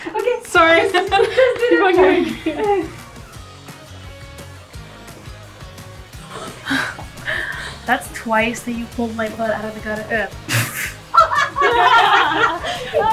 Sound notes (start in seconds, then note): 0.0 laughing; 10.5 laughing; 10.6 pfft